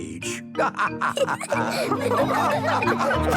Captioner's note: all laughing